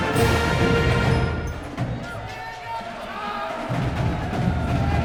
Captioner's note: person shouting; crowd cheering